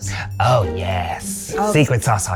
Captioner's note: in puppet voice